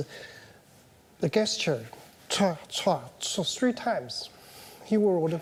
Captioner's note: vocalizes